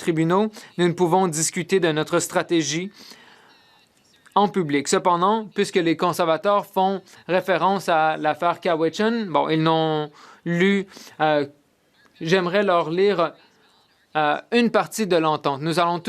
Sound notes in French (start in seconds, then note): 3.4 voix de l'interprète